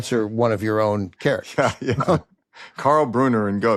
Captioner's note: laughs